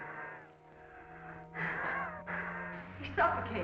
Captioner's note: Phantom breathes heavily